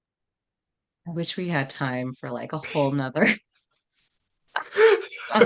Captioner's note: laugh